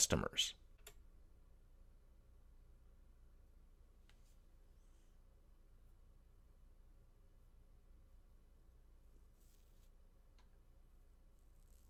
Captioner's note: pause